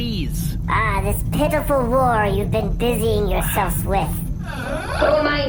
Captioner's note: C-53 sighs heavily